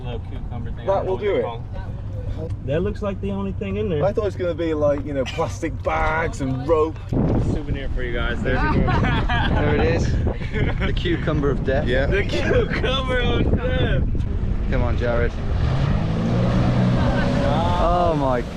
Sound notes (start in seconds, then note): 8.6 laughs; 12.9 laughs; 15.0 jet-ski engine roaring